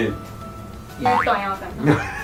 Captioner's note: boing boing